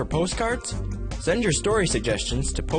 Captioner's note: upbeat instrumental music; voiceover